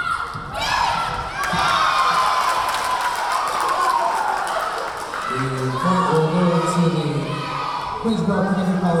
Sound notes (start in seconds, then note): 2.4 clapping; 2.4 cheering